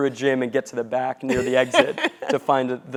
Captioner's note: laugh